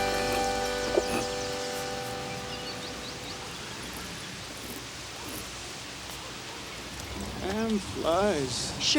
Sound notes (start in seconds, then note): 1.0 birds chirp